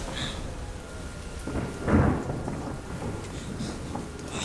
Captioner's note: thunderclap